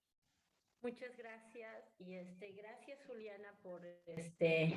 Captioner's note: speaking spanish